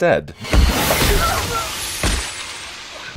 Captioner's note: stab